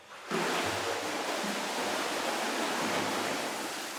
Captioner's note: water splashing